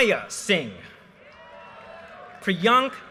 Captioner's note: audience cheers and applause